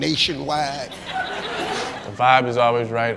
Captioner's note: crowd laughs